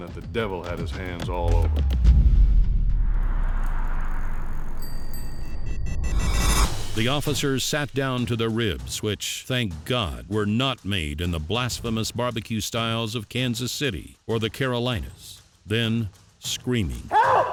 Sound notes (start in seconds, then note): 4.7 bell ringing